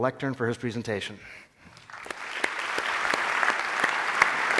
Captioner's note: applause